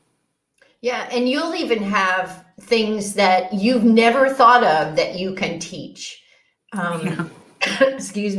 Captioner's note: cough